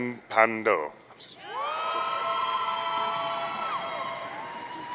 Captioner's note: audience cheering